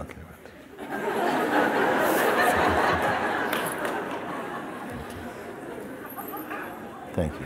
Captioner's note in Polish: śmiech